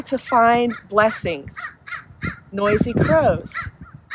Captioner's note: bird cawing